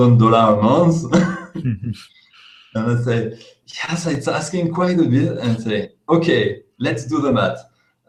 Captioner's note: laughs